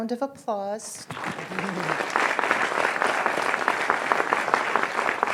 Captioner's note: audience applauding